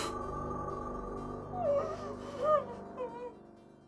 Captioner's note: Kathy crying